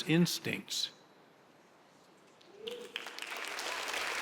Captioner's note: audience applauds